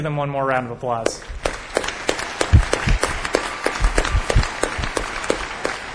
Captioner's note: applause